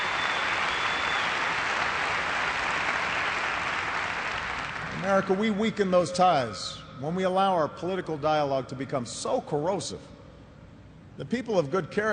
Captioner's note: cheers and applause